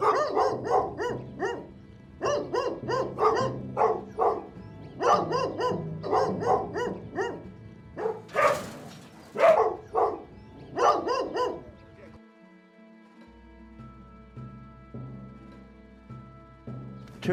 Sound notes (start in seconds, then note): 0.1 dogs barking; 7.9 dogs barking; 7.9 cage rattling; 14.8 tense music